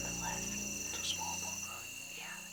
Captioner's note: whispering